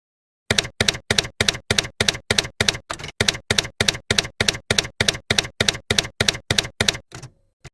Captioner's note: typewriter keys clacking